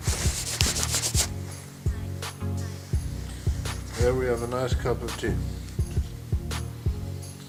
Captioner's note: sound of camera cleaning